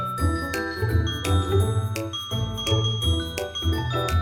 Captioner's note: sprinkle of fairy dust sound effect